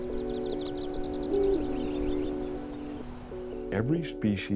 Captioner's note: birds chirp; owl hoots